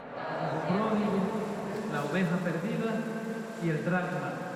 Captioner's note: Spanish spoken audio